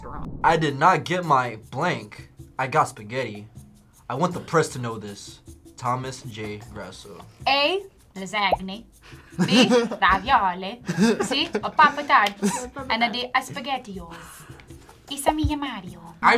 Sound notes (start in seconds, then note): 7.4 in "Italian" accent